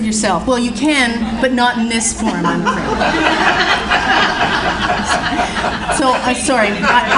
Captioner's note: audience Laughs